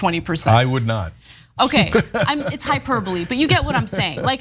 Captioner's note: laugh